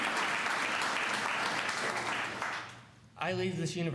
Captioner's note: applause